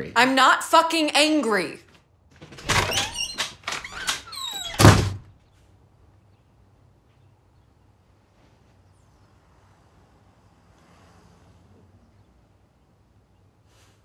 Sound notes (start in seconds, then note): 2.3 door creaks; 4.9 door slams